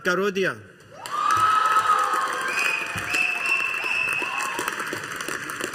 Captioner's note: audience applauding